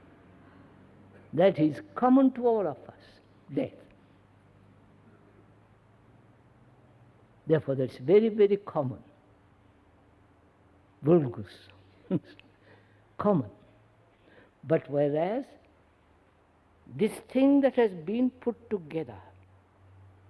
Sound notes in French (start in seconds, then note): 12.4 rires